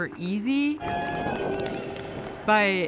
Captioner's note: crowd cheering